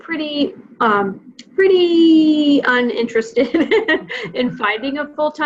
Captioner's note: chuckling